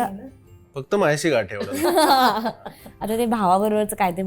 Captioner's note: gasps; chuckles